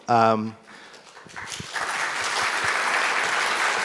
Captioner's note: audience applauds